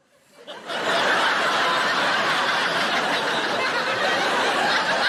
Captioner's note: audience laughing